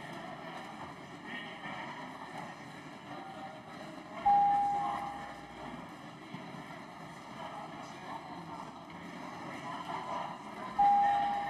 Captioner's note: some Applause